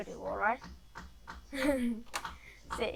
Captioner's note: chuckles